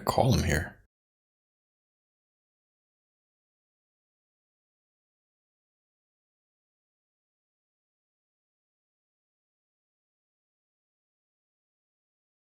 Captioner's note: silence